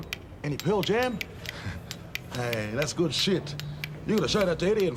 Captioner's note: laughs